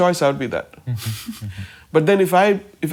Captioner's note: chuckles